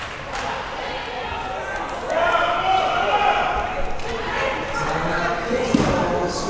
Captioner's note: people yelling and talking